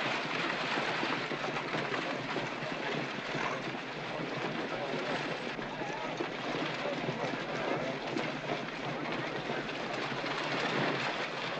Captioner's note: hooves trotting & carriage rattling